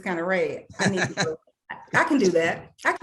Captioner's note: laughing